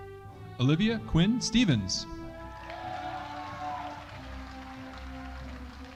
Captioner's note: audience applauding